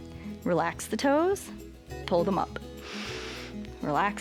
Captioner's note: inhales